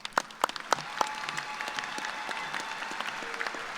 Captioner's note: applause